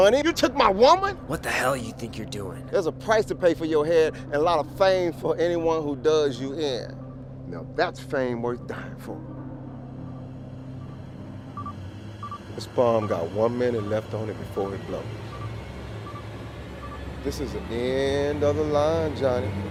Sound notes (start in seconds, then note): 10.0 bomb beeping; 15.1 intense music